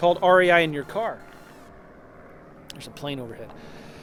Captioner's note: plane engine thrumming